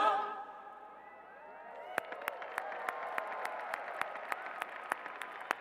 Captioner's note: cheers and applause